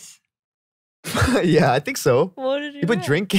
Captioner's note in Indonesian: tertawa